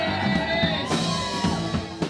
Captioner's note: cheers and applause